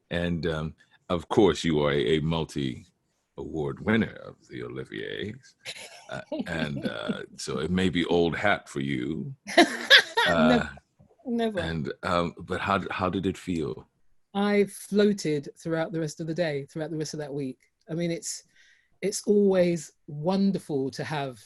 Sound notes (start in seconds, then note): 9.5 Sharon laughs